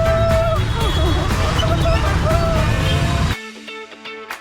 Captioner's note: laughs; upbeat music continues